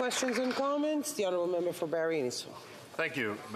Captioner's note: some applause